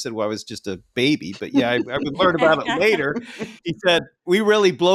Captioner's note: laughing